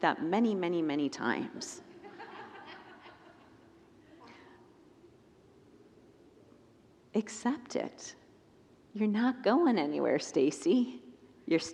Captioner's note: congregants laugh